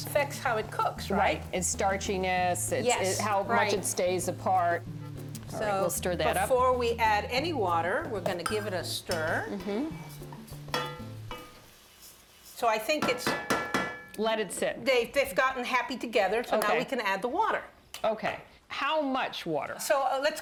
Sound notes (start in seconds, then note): 12.9 metal spoon hitting pot